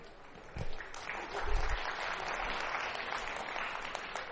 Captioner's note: applause